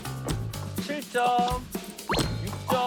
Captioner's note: in an answering machine tone